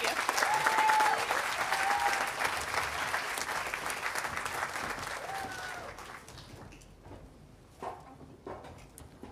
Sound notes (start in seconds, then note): 1.8 audience applauding